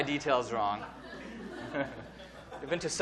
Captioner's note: audience laughing